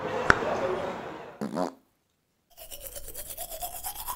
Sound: toothpaste popping open; teeth brushing sounds; toothpaste squirting

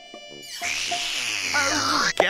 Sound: slurp!

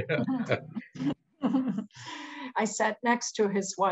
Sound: chuckles

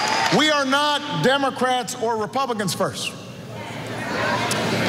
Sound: cheers

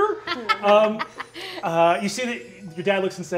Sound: laughing

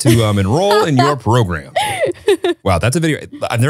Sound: laughs

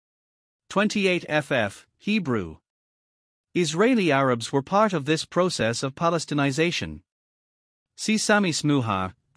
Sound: Hebrew

